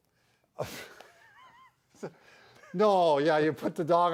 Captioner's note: chuckles